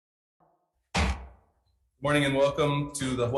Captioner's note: gavel bangs